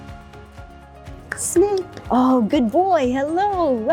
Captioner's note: clap clap